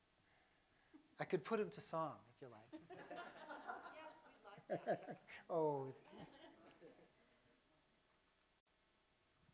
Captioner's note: laughter